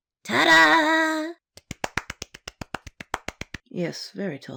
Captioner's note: Happy Viktor Claps